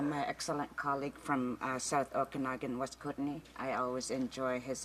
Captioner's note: speaking indigenous languag